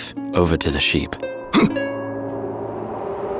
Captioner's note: tense music; Shepherd grunts